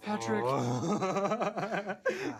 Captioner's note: Patrick cackling